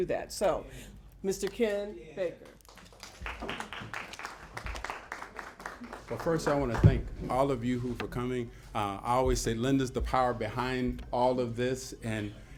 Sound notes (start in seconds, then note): 2.3 applause